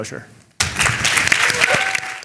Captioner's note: audience cheering